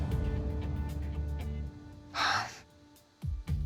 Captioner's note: sighs